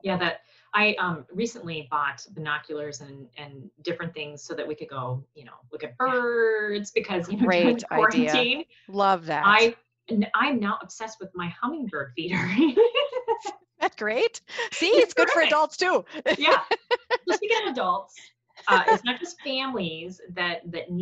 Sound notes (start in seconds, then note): 14.5 laughing; 18.6 laughing